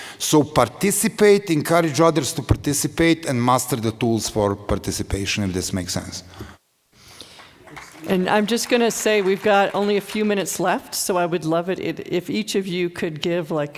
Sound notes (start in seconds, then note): 7.2 applause